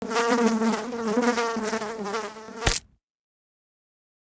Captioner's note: fly buzzing